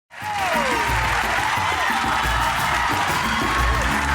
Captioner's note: audience cheering